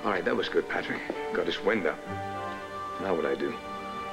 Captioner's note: normal voice